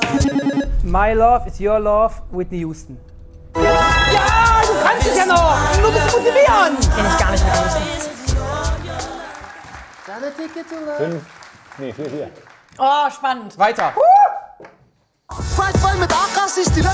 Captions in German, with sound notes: "My Love Is Your Love", Whitney Houston. Jaa! Du kannst es ja noch! Kenn ich gar nicht. Fünf? Nee, vier, vier. Oh, spannend. - Weiter. (Jubelruf) (Dynamische Musik)